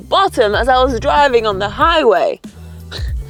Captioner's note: laughs